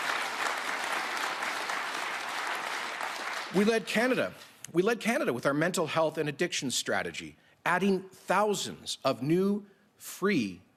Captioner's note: applause